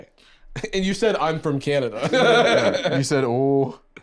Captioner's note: laughs